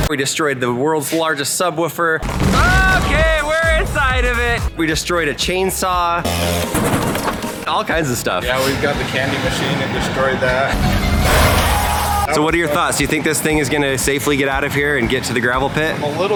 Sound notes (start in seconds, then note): 6.2 chainsaw whirs; 10.9 candy machine shatters